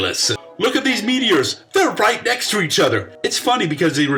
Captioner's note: sarcastically